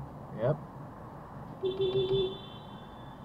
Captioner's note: beepbeepbeepbeep